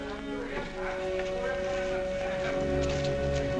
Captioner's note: potter continues chattering